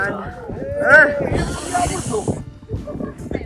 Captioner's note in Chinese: 倒吸一口凉气